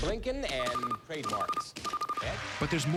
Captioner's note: buzzer